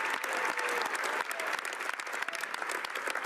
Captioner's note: some Applause